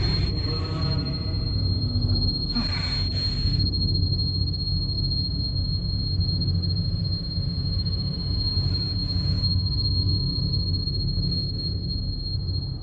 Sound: tinnitus noise

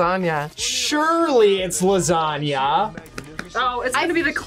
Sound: claps

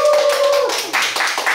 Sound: applause

